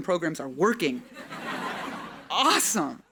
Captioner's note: audience laughing